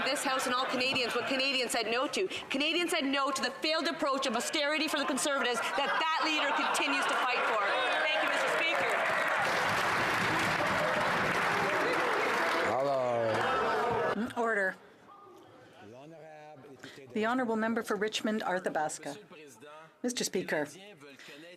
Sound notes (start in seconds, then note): 12.0 some Applause